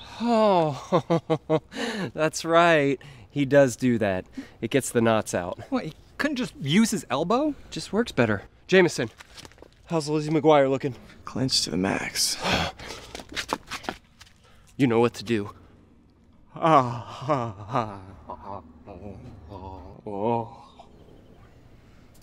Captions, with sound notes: Ohhh. [laughs] That's right. He does do that. It gets the knots out. What, he couldn't just use his elbow? It just works better. Jameson! How's Lizzie McGuire looking? Clenched to the max. [sighs] You know what to do. [moaning]